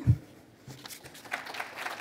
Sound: applause

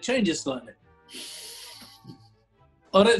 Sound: sniggering

